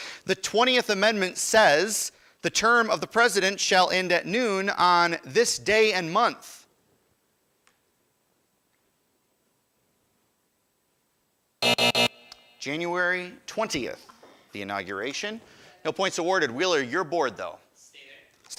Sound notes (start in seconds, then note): 11.6 buzzer